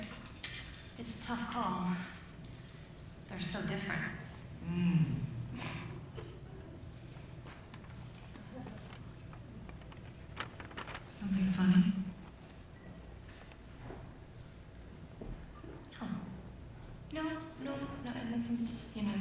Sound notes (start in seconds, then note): 6.0 chuckles